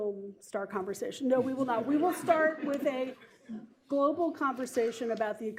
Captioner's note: laughter